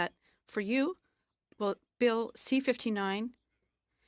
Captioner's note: speaking in french